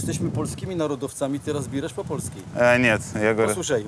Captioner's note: speaks Polish; in Polish